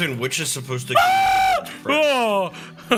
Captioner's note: screams